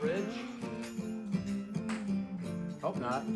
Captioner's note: humming